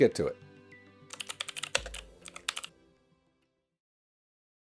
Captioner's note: keyboard clacking